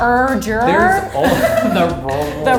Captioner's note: laughing